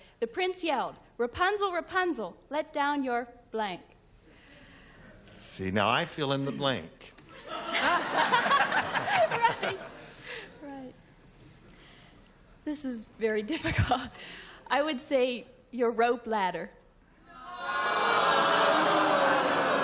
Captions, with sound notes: the prince yelled, Rapunzel, Rapunzel, let down your blank. - See, now I fill in the blank. [laughter] - This is very difficult. I would say, your rope ladder.